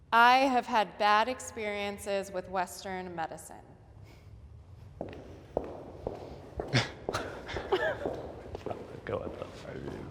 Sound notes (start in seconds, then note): 7.2 laughter